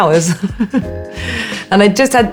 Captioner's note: Alexa laughing